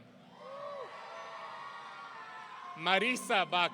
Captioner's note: audience cheering